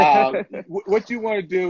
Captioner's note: laughter